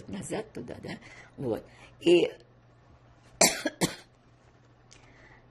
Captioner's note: coughing